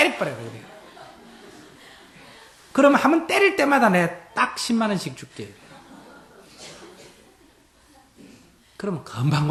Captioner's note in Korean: 청중 웃음; 청중 웃음